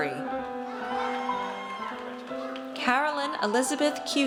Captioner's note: audience cheers